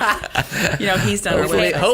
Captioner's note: laughter